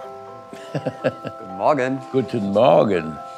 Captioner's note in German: Fritz lacht